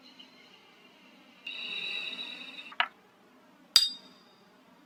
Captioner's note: electronic pulse; hammering